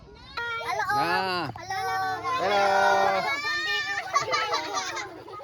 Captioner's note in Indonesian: berteriak